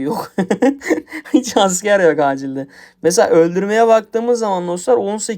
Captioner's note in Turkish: kahkaha